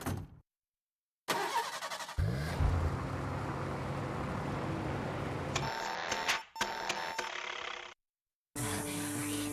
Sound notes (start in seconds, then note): 1.2 engine starts; 5.5 beeping; 6.7 engine sputtering